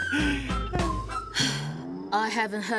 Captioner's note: sighs; chuckling